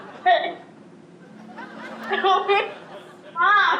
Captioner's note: audience laughing; girl stammering